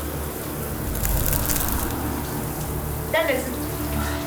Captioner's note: icy crunching